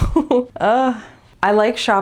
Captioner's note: laugh; groan